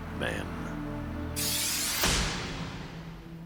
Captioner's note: dramatic clanging effect sounds